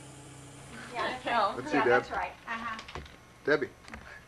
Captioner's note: indistinct chatter